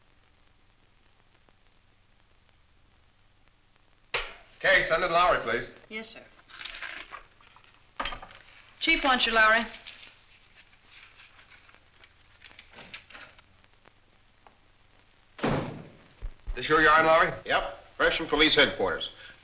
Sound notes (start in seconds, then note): none